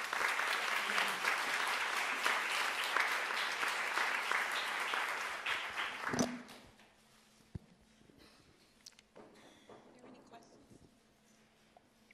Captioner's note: applause